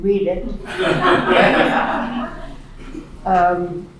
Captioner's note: laughing